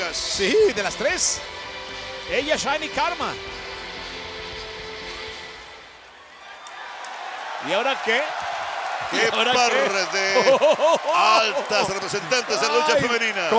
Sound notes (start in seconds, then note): 6.1 applause